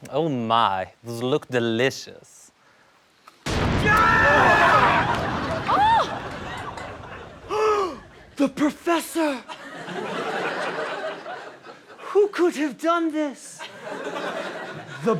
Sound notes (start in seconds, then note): 3.5 thunder; 3.5 yells; 5.5 screams; 7.5 gasps